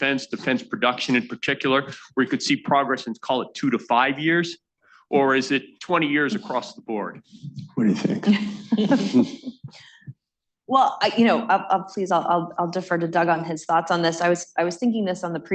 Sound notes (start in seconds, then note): 7.7 laughter